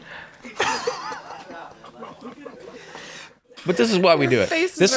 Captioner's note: laughing